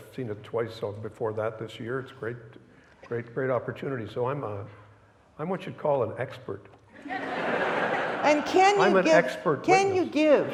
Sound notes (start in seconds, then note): 7.0 audience laughing